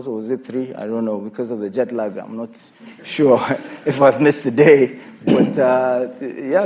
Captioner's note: laughter